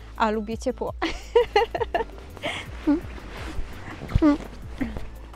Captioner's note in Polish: śmiech